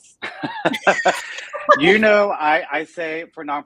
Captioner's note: both laughing